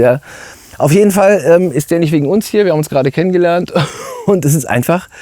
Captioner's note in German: gelächter